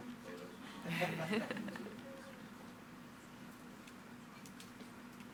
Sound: board members laugh

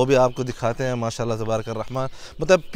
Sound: Arabic

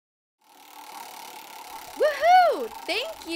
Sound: whirring

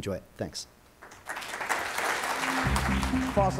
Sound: audience applauds

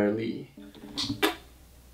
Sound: kiss

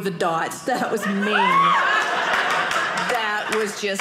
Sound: audience laughing

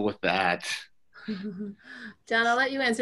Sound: laughs

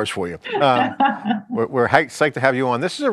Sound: laughing

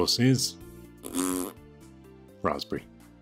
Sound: makes raspberry noise

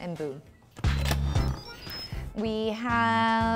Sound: Instant Pot beeps

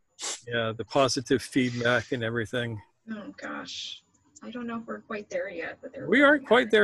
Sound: laugh

